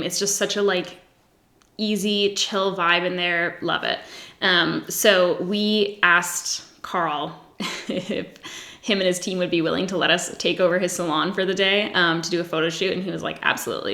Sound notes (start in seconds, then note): 7.6 giggles